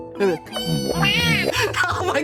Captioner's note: laughing; bo-womp bo-womp bo-womp